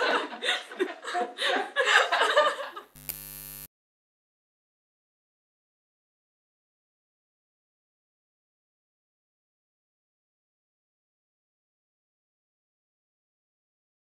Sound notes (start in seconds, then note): 0.0 women continue laughing; 2.9 neon buzzes